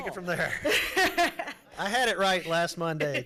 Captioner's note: laughing